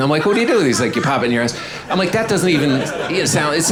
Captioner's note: audience laughing